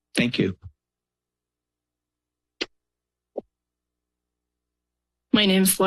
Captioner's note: silence